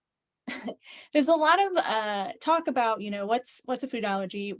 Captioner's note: chuckles